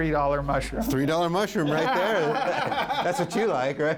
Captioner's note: laughs